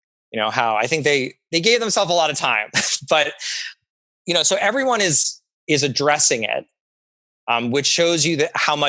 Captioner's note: laughs